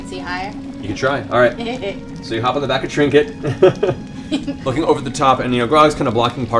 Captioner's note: laughs